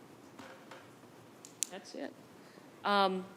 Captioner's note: button clicking